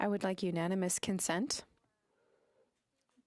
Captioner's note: speaking French